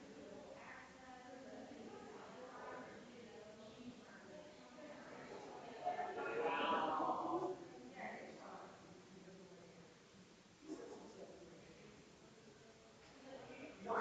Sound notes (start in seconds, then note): 5.2 people chattering distantly continues